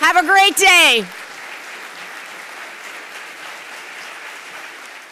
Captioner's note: audience applauding